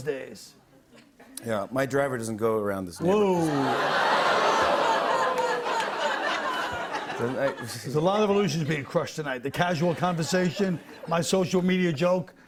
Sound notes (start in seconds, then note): 3.1 audience ohs; 5.8 laughter